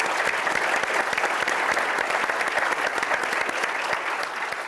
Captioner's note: audience applauds